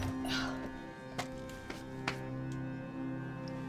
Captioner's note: suspenseful music continues; Rachel grunts